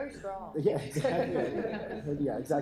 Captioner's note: laughter